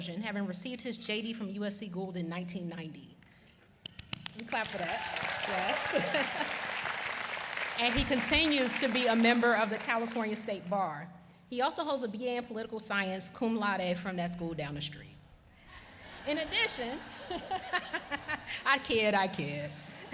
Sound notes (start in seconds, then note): 9.3 applause